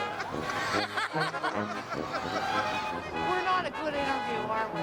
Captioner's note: laughing; lively music